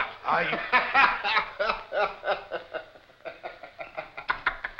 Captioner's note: laughing